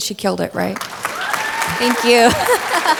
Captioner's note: audience clapping and cheering